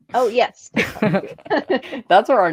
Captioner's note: both laughing